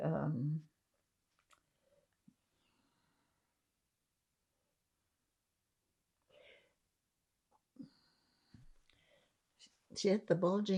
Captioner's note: pauses 10 seconds